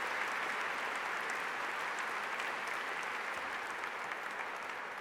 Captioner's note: applause